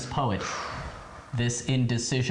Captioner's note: sighs